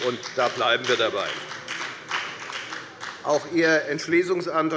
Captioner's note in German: Beifall bei der FDP